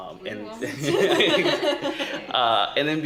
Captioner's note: laughter